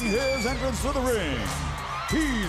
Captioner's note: crowd cheering